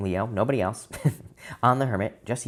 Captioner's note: laughs